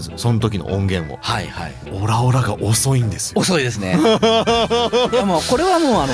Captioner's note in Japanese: 笑い